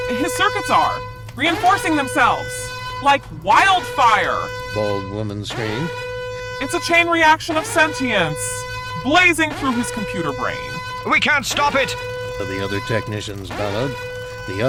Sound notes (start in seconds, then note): none